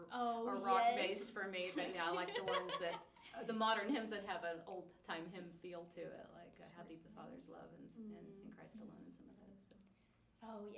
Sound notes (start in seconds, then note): 1.8 laughs